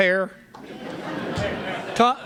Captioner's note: laughter